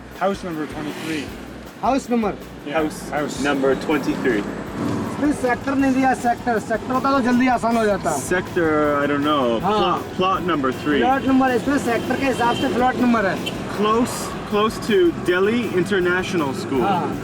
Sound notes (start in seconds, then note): 12.8 in foreign language